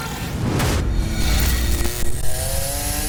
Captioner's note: revving